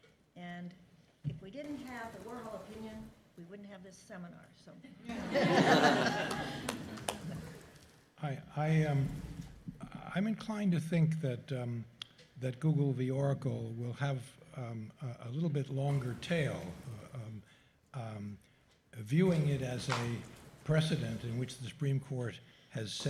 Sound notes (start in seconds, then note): 4.9 laughter